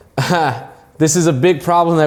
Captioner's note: giggling